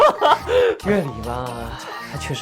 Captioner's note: still such powerful laughter